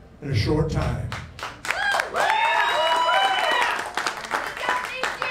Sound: crowd cheering

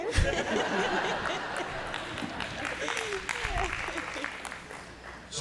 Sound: laughter, applause

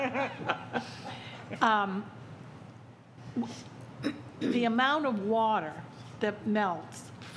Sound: laughter

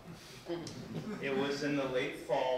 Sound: people chuckling

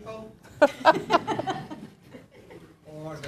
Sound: laughter

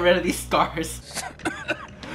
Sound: coughing

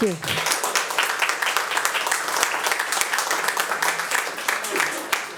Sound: audience applauding

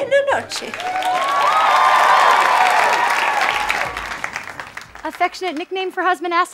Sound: audience clapping

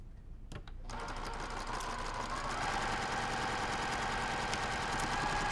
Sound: sewing machine whirling

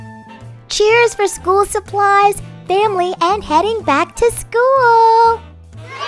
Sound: kids Cheering

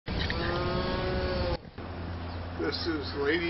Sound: cow moos

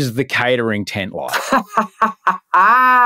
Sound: laughing

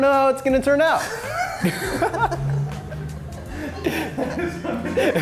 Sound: laughter

